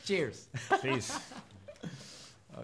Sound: laughing

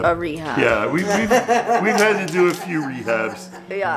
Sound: laughs loudly

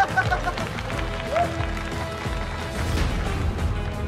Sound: laughing; applause

